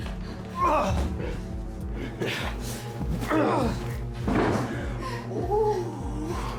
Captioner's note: Carrie screaming; tense music; Tim groaning